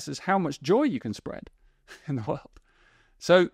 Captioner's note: chuckles